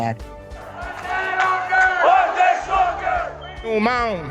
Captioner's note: chant et acclamant bruyamment